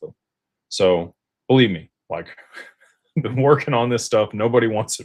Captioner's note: laughter